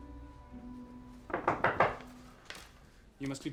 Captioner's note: knocking